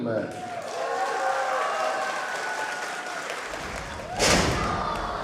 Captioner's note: crowd cheering and clapping